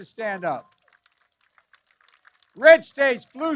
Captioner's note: applause